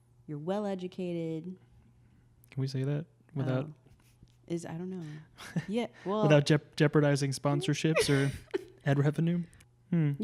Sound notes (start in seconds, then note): 4.1 laughs